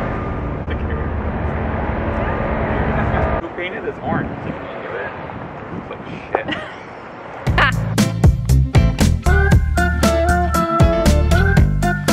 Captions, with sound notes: - Who painted this orange, did we do it? It looks like shit. (laughs) (upbeat music)